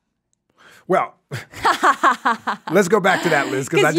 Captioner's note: laughs